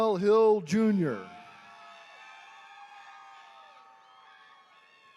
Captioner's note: attendees cheering